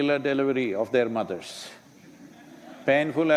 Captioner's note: laughter